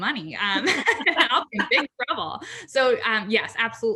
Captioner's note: laughs